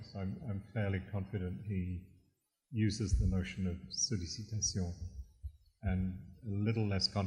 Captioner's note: french